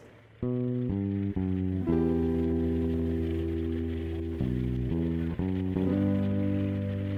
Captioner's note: quiet music; aircraft whirring